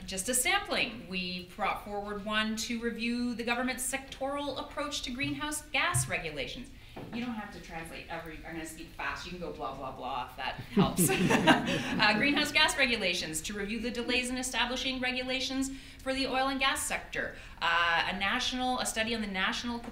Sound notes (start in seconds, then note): 10.7 audience laughter